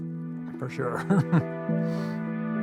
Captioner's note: chuckles